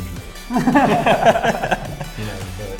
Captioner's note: laughing